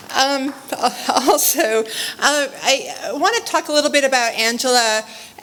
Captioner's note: laugh